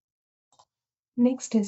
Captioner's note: silence